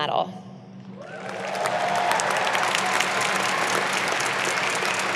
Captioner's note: audience applauding